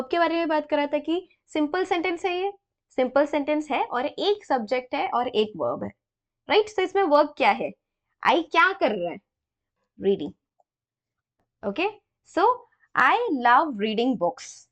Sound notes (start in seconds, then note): 0.1 explaining in hindi